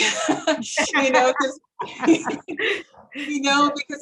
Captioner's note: laughing